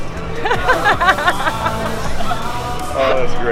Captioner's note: all laugh